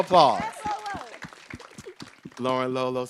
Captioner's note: group cheering